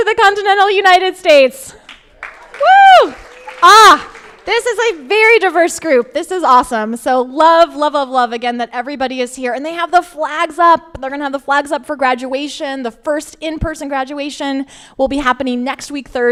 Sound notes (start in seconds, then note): 1.7 crowd applauding